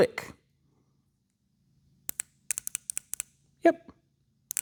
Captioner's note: clicking